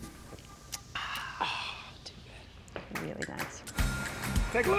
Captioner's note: both sigh